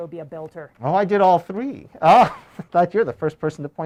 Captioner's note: laughs